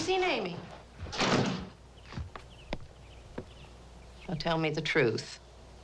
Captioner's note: door thuds